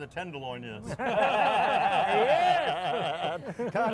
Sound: laughter

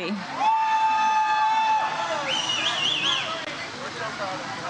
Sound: audience cheers

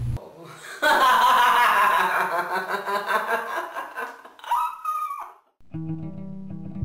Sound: evil seductive laughter

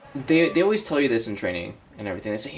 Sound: scoffs

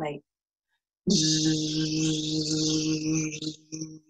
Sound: jjjhummmmmm

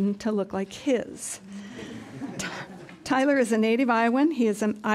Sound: laughter

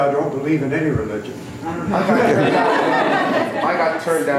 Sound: laughter

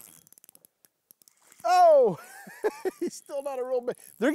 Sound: chuckles

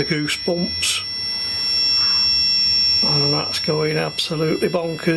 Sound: high pitched beeps

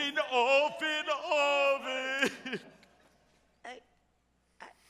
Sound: sobs

